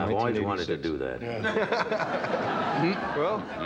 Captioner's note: all laughing